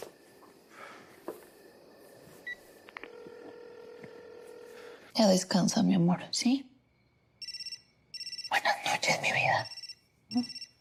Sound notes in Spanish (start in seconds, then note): 7.4 Suena el celular